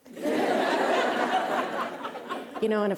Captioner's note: laughter